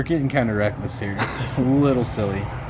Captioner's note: laughing